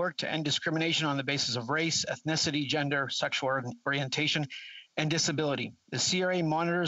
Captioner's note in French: voix de l'interprète